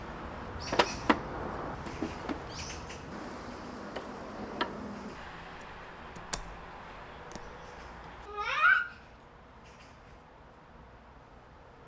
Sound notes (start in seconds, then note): 8.1 super excited